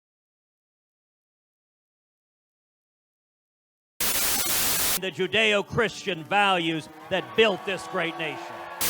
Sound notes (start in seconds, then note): 4.0 Static